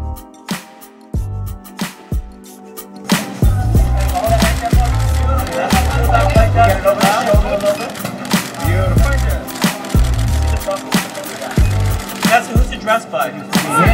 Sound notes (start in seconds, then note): 3.8 indistinct chatter; 6.1 cameras shuttering